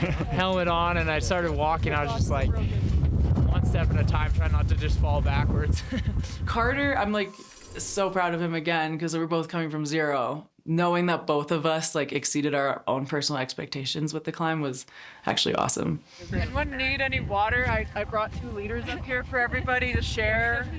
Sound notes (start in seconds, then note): 5.7 chuckling